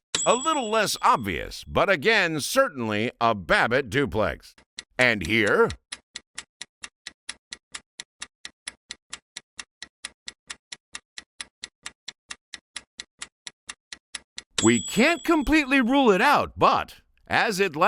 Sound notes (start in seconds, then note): 7.9 sound of stopwatch ticking